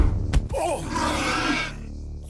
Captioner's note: smack; thud